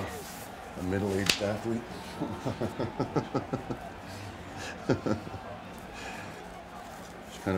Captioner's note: laugh